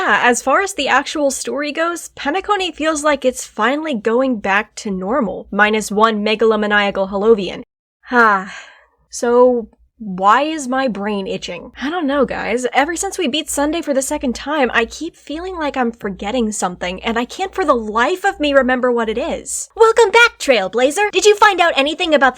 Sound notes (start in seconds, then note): 8.1 sigh; 19.3 pom pom